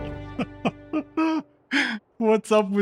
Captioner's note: laughter